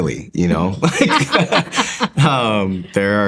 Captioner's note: laughter